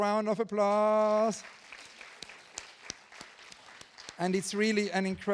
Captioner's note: audience applauding